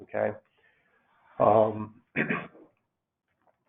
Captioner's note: clearing throat